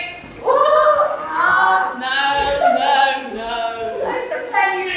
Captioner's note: dreamily say 'no' back and forth